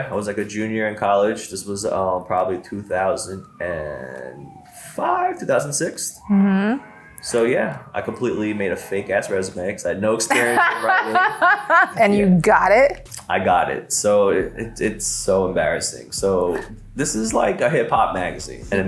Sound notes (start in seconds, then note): 10.2 laughs